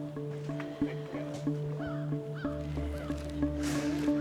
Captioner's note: bird caws